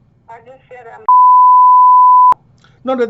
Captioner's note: beep